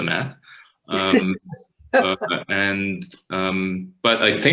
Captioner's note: panelists laughing